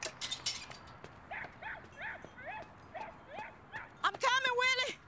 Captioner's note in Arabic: نباح الكلب